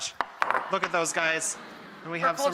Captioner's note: audience groans in delight